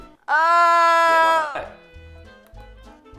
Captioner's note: groan